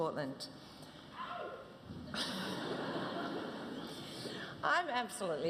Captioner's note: audience member cheers